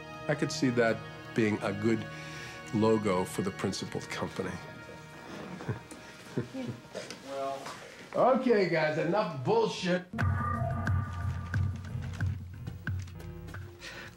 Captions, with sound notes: I could see that being a good logo for the principled company. (laughs) Okay, guys, enough bullshit! (strange electronic music)